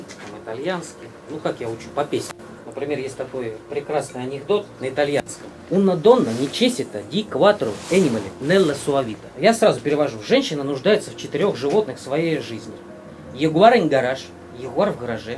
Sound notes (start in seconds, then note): 4.6 in Italian